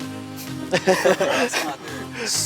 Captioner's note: campers laughing